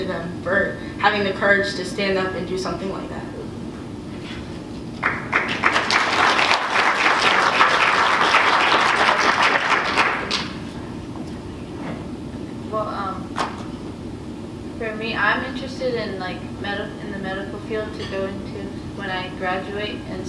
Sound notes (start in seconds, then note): 9.0 applause